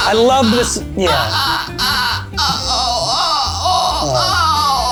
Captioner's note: groans